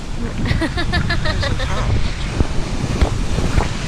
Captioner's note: laughing